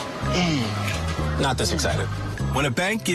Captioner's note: grunting